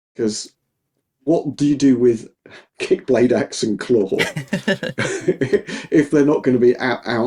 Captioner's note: both laughing